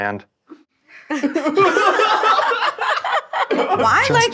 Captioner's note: all laughing